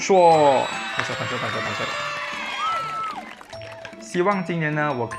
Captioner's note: clap clap clap